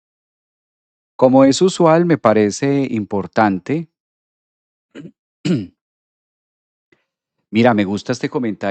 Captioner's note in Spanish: carraspeo